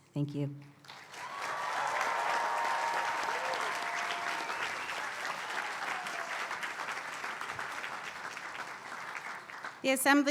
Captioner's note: applause